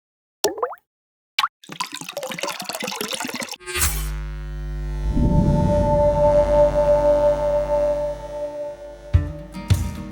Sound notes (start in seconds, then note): 3.7 logo buzzing; 4.0 bright music